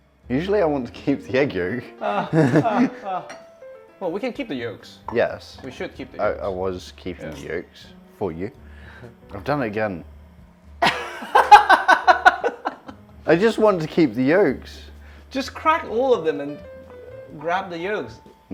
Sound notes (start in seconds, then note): 2.0 laughter; 10.8 laughs